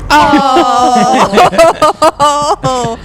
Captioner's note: laugh